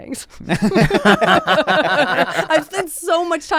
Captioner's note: laughs